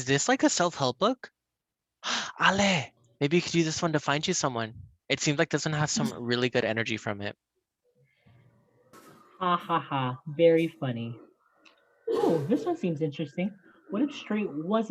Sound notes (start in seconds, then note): 8.7 sarcastic